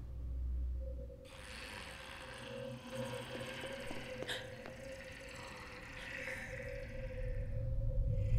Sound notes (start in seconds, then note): 1.4 distant gurgling